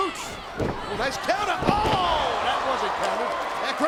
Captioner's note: mat thumping